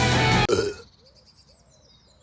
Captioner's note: weak belch